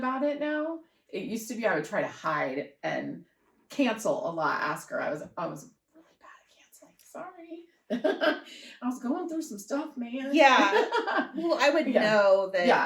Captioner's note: laughter